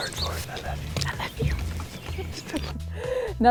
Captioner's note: whispering